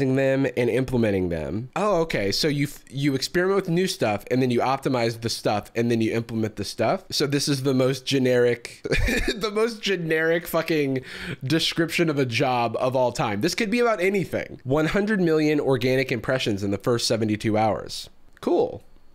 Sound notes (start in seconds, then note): 8.9 laughs